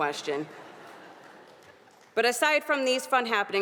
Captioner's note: audience laughing